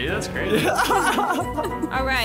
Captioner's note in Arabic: يضحك دراماتيكي